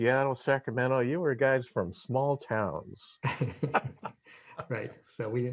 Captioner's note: laughs